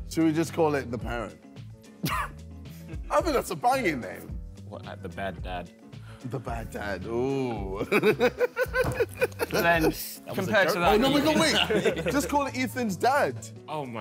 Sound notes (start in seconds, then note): 7.8 laughs